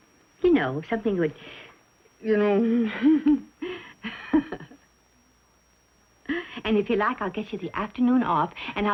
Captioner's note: laughs